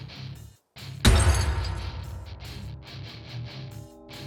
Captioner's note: deep metal impact